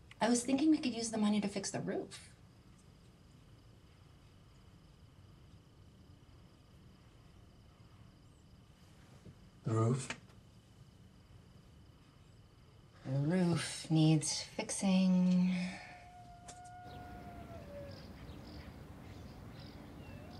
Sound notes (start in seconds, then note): 15.5 coyote howling in distance